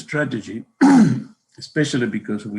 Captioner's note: coughs